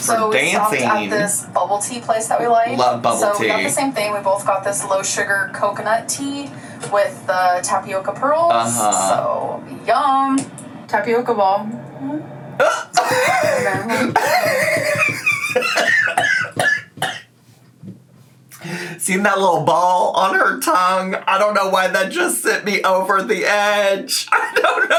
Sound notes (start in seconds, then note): 12.6 laughing; 16.0 choking